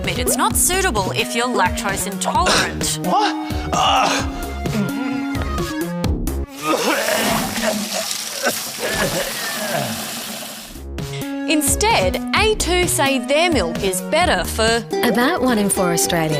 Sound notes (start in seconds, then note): 2.4 coughs; 3.6 moans; 6.5 vomits